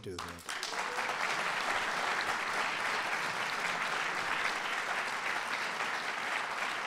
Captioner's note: applause